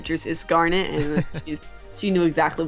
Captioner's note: chuckles